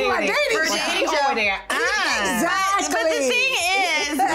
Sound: overlapping chatter

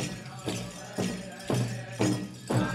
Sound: regalia ornaments jingling; drum beating gently

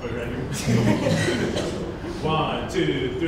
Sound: laughing

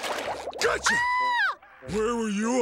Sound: screaming

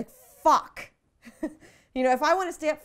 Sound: laughs

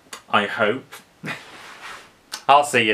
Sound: chuckles

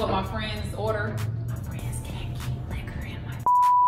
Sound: whispering

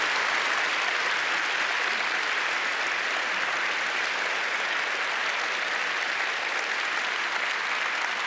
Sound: applause

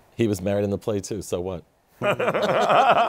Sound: laughter

